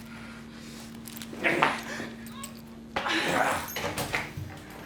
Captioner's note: grunting